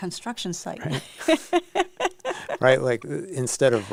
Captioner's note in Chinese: 笑聲